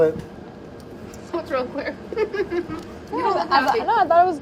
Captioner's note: chuckles